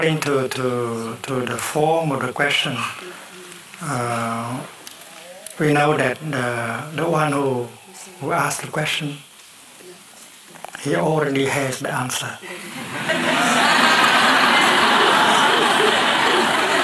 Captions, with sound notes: According to the form of the question we know that the one who asked the question he already has the answer. [LAUGHTER]